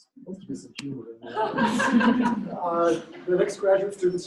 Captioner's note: laughter